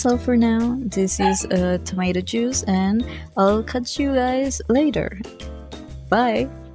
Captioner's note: bark